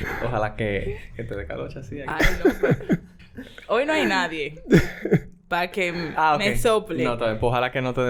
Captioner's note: laughs; laughs